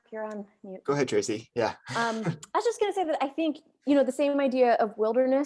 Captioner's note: chuckles